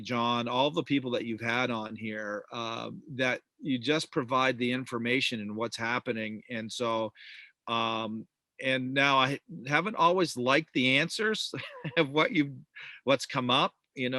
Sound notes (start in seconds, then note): 11.4 chuckles